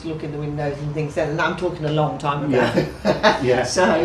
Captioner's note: laughs